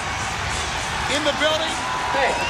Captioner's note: crowd cheering